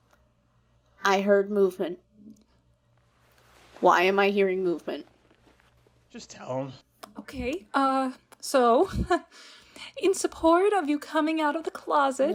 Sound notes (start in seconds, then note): 3.3 more scuffling; 8.9 chuckles